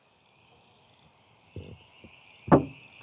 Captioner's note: insects chirping